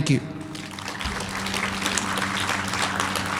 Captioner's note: applause